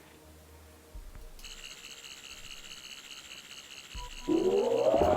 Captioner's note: Sonic screwdriver buzzing